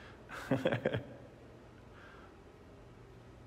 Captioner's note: laughing